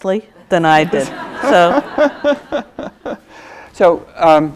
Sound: audience laughs

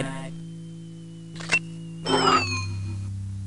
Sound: servos whirring

